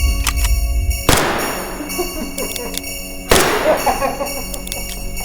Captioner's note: gunshots blasting; clown laughing